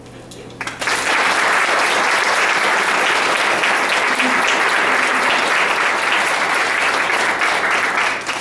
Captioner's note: applause